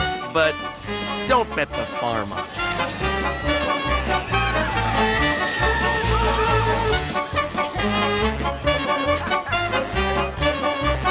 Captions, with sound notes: But don't bet the farm on it. (riders screaming)